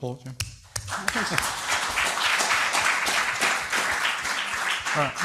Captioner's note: audience applauds